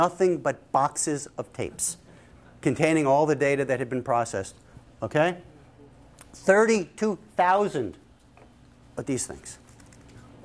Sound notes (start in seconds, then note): none